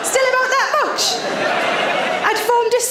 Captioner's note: audience laughs